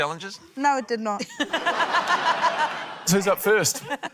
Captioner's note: laughter